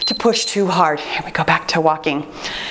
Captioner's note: timer beeps